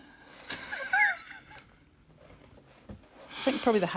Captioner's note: he laughs